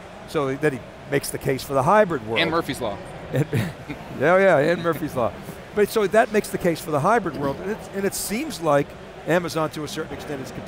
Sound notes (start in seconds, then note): 3.3 laughs